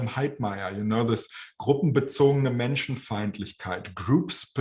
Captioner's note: speaking german